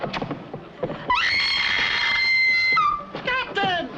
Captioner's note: screaming